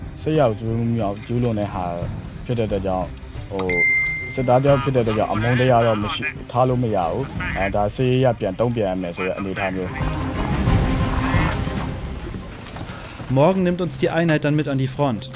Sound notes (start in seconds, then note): 3.7 ringing; 9.0 haunting sounds